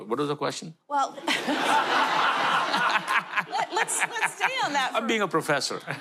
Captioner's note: laughter